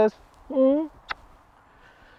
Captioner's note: smooch